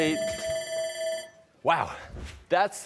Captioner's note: timer ringing